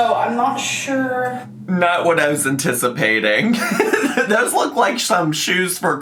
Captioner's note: laughs